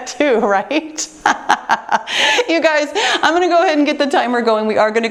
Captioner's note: laughing